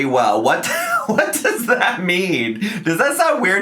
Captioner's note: laughs